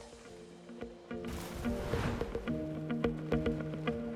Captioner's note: splash